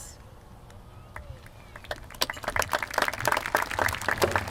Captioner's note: applause